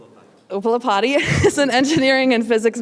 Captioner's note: laugh